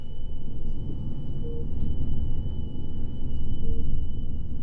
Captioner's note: engine rumbling